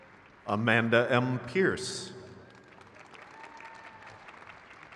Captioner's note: crowd cheers